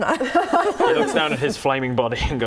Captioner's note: laughing